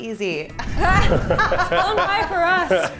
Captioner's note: laughing